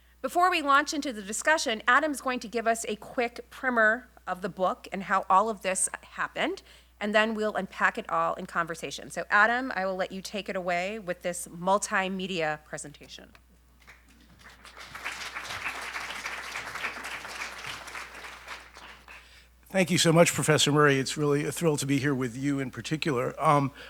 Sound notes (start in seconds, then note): 13.8 audience clapping